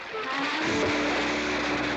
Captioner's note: splash